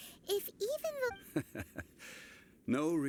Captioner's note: chuckles